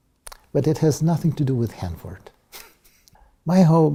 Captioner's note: laugh